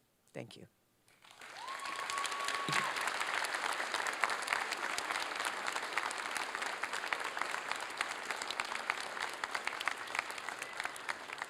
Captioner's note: applause